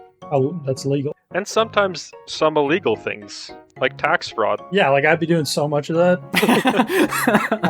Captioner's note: much laugh